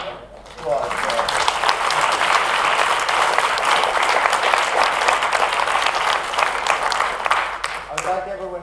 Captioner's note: applause